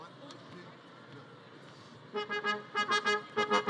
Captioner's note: audience chattering; celebratory music